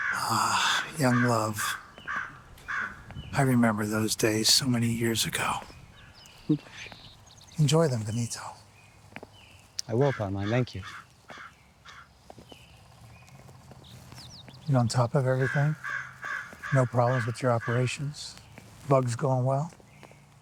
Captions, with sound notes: - Ah, young love. I remember those days so many years ago. Enjoy them Benito. - I will Carmine. Thank you. (crows cawing) - You on top of everything? No problems with your operations? Bugs going well?